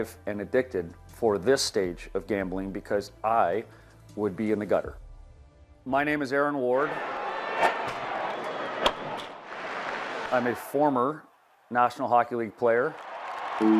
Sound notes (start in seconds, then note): 6.7 crowd cheering; 12.8 crowd applauding; 13.6 gentle music